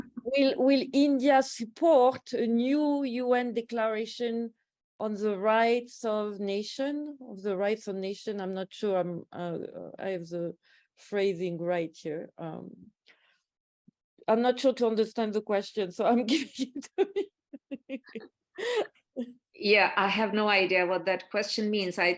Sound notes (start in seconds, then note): 17.6 laughs